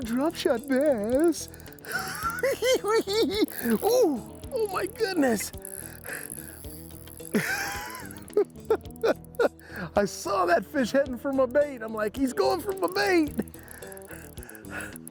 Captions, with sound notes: Little drop-shot bass. [laughing] Ooh! Oh my goodness! [chuckles] I saw that fish heading for my bait. I'm like-- "He's going for my bait"!